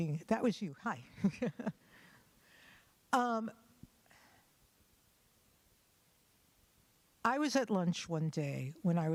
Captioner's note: chuckles